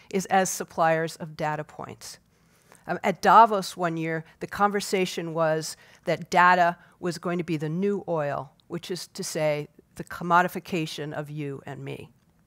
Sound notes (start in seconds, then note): none